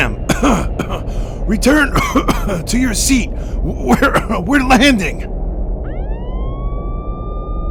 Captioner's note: cough